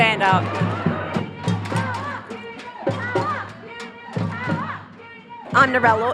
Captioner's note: chant